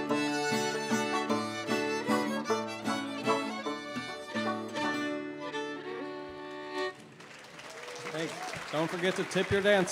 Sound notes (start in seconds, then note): 7.2 audience cheering